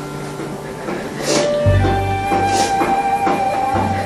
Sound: crying

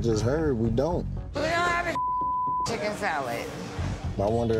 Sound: beep

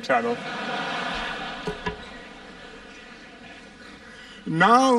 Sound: laughter

